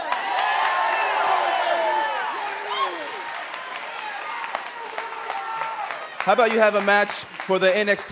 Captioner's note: cheers and applause